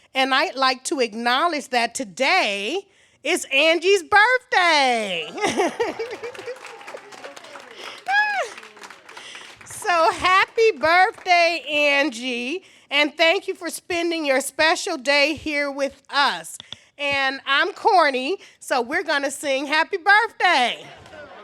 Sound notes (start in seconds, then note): 5.0 laughs; 5.3 applause